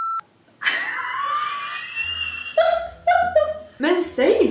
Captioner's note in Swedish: Skrattar